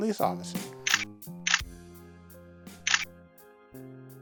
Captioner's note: shutter clicking